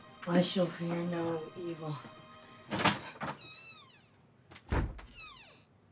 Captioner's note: door creaking